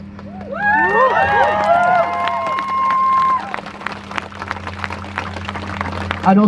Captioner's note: crowd cheers